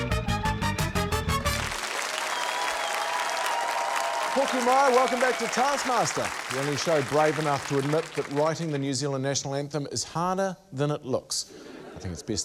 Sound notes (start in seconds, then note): 1.4 cheering, applause